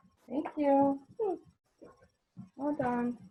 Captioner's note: vocalizes